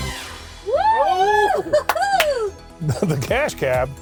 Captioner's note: upbeat music; cheering